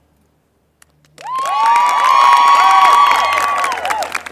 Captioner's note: applause